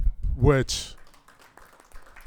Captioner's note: crowd applauding